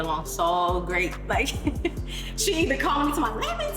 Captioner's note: laughs